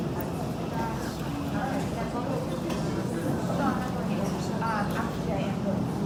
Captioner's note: people chattering